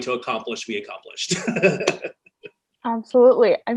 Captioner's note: chuckles loudly